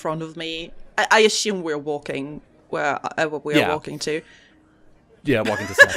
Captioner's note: crowd noises continue in the background